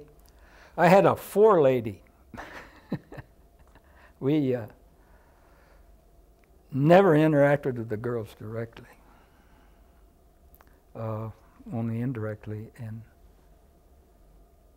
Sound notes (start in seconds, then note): 2.3 laughter